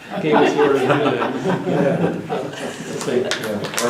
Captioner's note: laughter